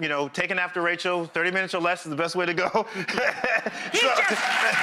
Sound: laughs

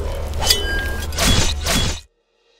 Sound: stabbing sound

